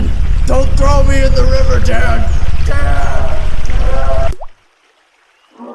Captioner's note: river noises and whispers; river noises and muffled yelling; ploop